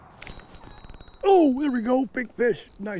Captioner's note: rod whipping